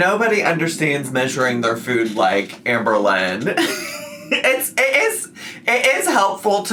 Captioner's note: laughs